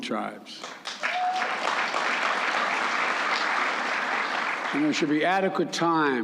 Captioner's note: applause